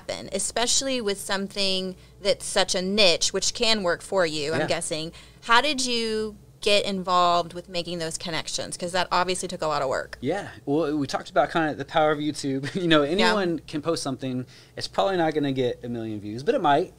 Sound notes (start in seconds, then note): 12.6 chuckles